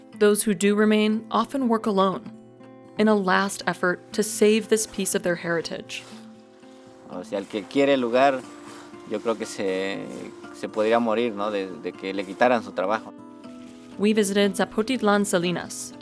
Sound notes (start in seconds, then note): 7.3 speaks in foreign language